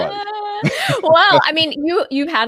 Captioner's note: laughs